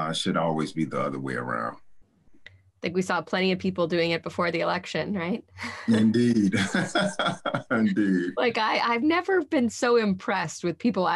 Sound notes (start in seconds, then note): 5.6 laughs